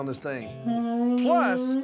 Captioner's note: horn sound